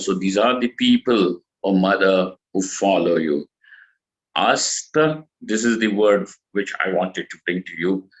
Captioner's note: sanskrit